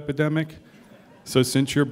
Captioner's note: laughter